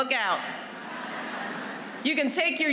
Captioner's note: laughter